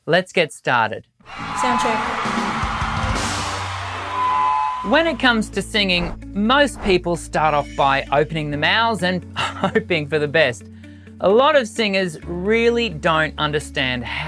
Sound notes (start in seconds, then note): 1.0 upbeat music; 1.2 people applauding